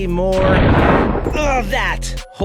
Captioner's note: explosion